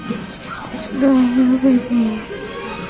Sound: mumbles

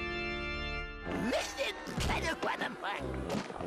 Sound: jabbering

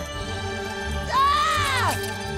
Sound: screaming

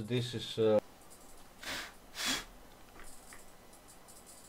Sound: blowing air a the camera lens

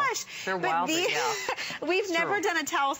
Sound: laughter

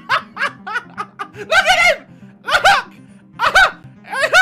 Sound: even more laughter at the man

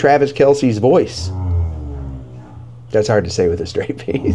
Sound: dog growling

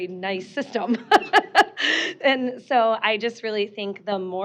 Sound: laughing

